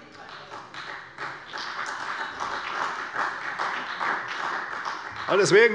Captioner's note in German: Beifall bei der CDU